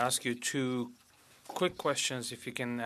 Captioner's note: speaking French